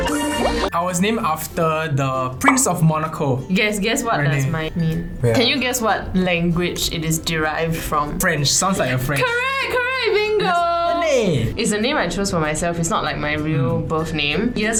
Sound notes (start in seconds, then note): 10.3 says in a italian accent for some reason